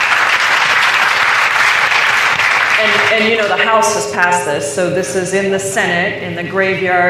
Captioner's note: applause